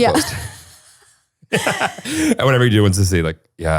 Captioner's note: both laughing